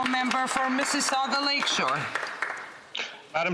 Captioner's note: some Applause